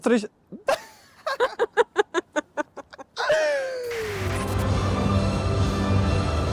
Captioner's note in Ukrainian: сміх